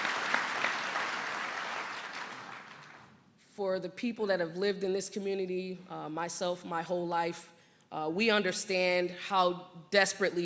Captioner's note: applause